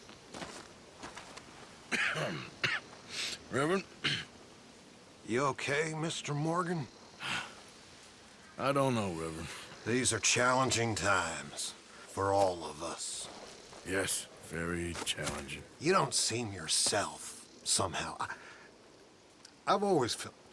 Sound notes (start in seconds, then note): 1.9 coughs; 7.2 sighs